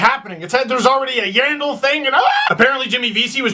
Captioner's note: horror scream